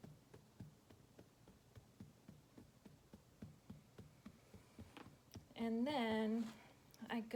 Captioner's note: tapping